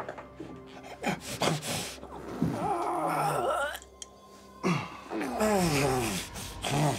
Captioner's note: grunting